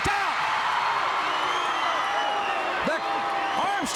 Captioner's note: crowd cheering